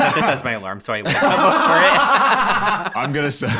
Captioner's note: laughs